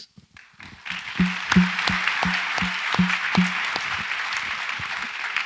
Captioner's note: audience applauds